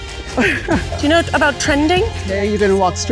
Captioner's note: laughs